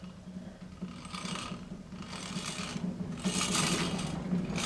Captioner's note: metals creaking